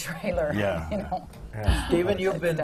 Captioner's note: laughs